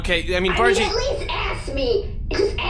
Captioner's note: still in a miffed tone